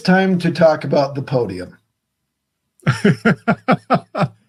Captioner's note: laughing